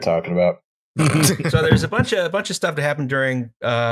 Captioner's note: laughter